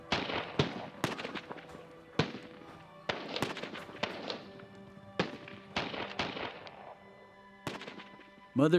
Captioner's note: gunfire